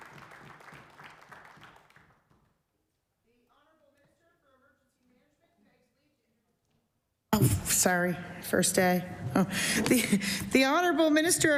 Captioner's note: applause